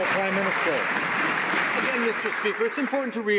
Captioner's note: some Applause